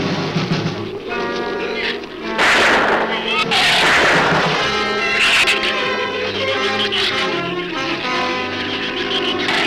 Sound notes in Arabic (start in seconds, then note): 2.3 إطلاق نار; 5.0 ثرثرة الزبابة